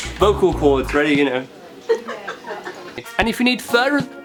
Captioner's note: laughter